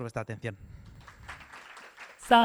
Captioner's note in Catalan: aplaudiments